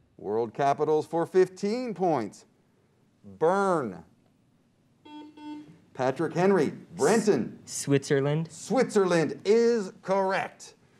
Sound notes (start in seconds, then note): 5.0 buzzer beeps